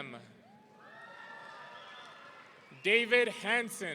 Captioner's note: audience cheering